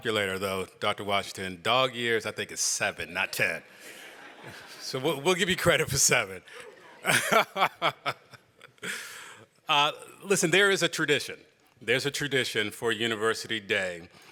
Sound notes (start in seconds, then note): 10.8 laughter